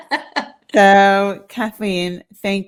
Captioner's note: laughs